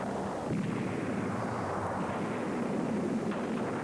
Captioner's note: cannon blasts